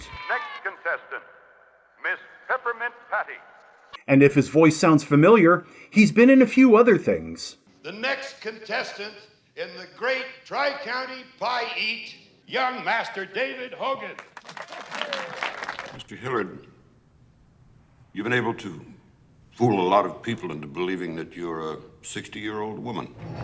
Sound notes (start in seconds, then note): 14.0 scattered applause